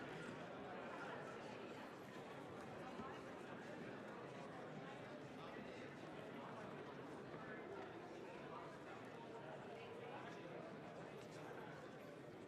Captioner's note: crowd Noise